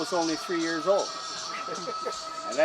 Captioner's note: laughter